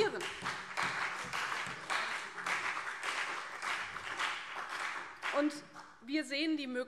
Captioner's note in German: Beifall CDU und vereinzelt BÜNDNIS 90/DIE GRÜNEN